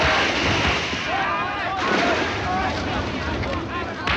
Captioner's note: clamoring voices